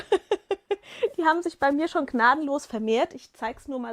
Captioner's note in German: gelächter